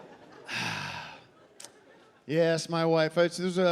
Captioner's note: sighing